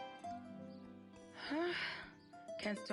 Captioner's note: exhales deeply